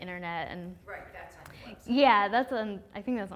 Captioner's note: voiceover